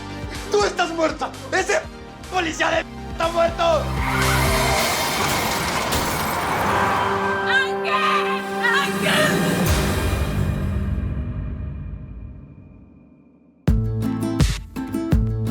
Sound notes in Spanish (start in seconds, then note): 3.6 Chirrido de llantas; 4.2 Estrépito